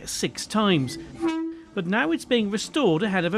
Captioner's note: 507 horn toots